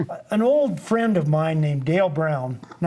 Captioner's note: laughs